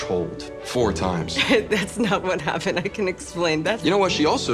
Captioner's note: chuckles